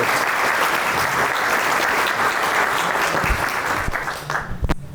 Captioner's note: audience applauding